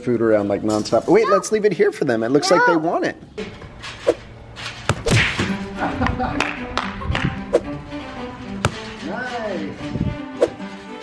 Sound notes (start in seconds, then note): 3.7 clapping; 5.0 light music